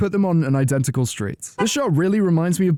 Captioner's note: honk